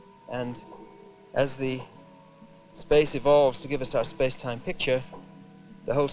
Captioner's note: none